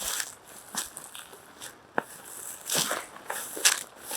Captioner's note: grass crunches